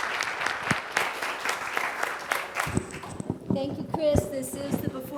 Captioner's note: applause